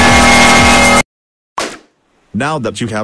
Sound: pops and zaps

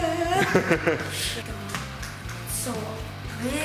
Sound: laughter

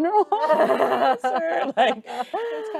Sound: group laughing

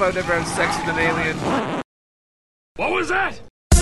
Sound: record scratches

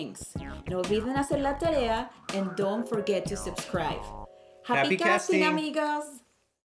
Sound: foreign language 00:19:41

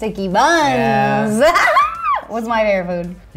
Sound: laughs

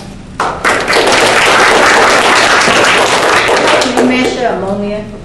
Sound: studio audience applauding

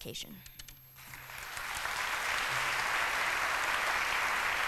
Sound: applause

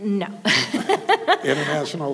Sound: laughing

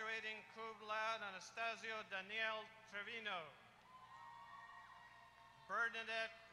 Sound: applause

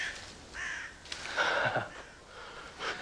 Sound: bird squawks; laughs

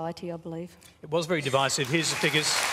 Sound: applause

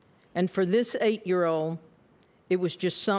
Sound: none

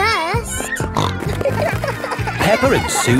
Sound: snorting

